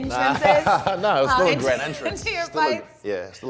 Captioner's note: laughing